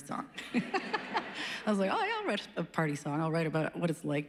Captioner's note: laughs